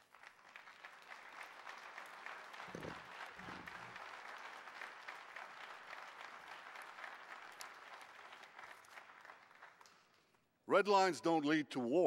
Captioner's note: clapping